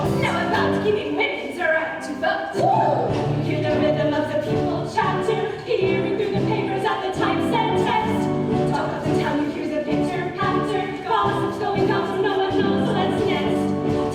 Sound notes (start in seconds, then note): 2.6 cheered